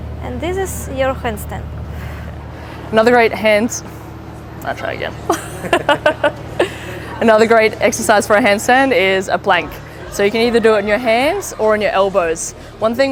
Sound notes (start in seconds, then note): 5.2 laughter